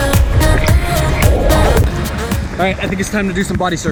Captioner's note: water splashing; upbeat electronic music